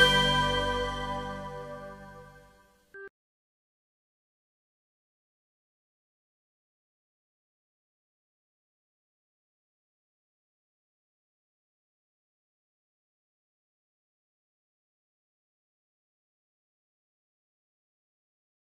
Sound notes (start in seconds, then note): 4.1 silence